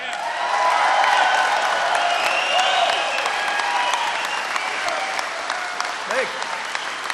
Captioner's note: applause